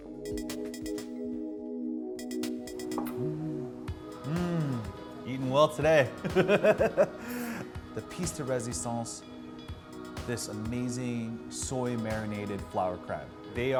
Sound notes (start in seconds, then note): 0.2 chill electronic music; 4.2 gasps; 6.1 laughs